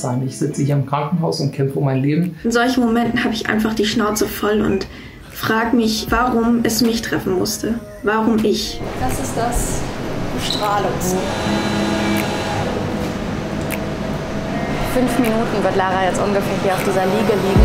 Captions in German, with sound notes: "Ich sitze im Krankenhaus und kämpfe um mein Leben." "In solchen Momenten hab ich einfach die Schnauze voll und frage mich, warum es mich treffen musste." "Warum ich?" (Maschinengeräusche) (Nachdenkliche Klänge) Fünf Minuten wird Lara jetzt ungefähr hier auf dieser Liege liegen.